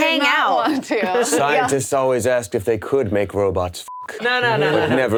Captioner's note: beep